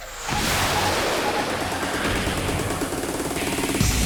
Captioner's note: jet engines roaring; energetic music